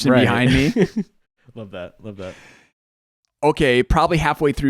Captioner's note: laughs